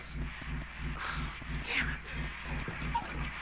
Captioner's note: sighs